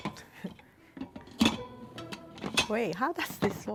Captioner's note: metal clanging